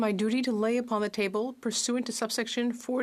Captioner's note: speaking French